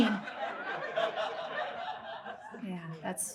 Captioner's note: audience laughs